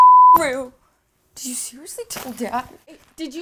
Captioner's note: beep